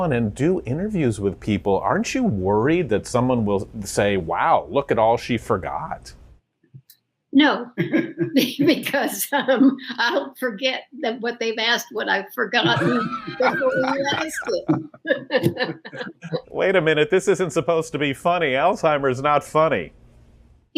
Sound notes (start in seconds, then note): 7.8 everyone laughing; 12.6 everyone laughing